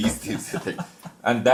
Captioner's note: हंसी